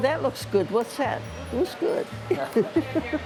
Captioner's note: laughs